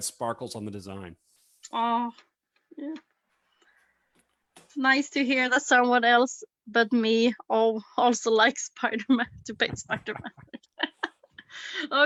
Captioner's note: laughs